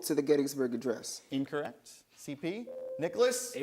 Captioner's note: buzzer sounds